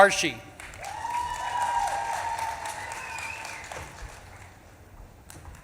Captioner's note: audience claps and cheers